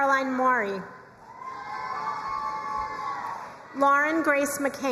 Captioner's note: crowd cheering and applauding